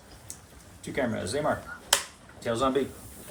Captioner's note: clapboard clicks